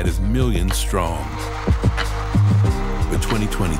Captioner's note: cheering